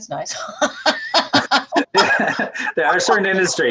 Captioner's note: laughing